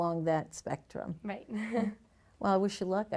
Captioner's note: chuckles